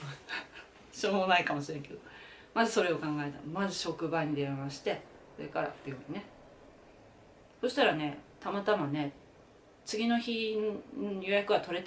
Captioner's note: laughs